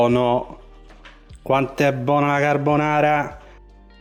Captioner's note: roman accent